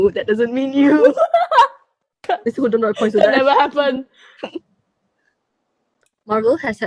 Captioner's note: more laughing; laughing again